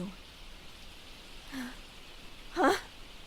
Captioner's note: confused exclamation